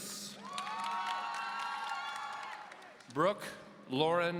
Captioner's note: audience cheering